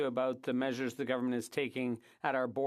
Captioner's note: speaking French